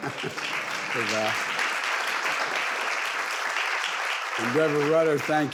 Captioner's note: audience laughing; audience applauding